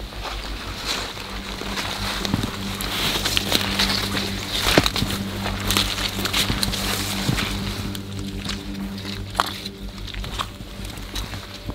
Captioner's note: sound of walking